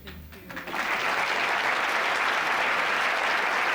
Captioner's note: applause